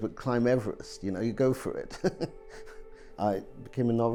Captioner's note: laughing